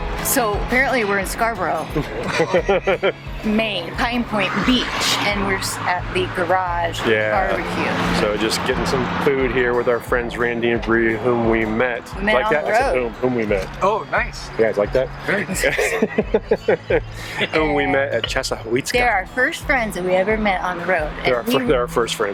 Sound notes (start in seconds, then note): 1.9 laughs; 15.3 laughs